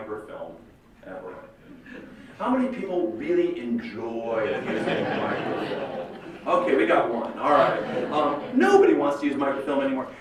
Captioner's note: laughter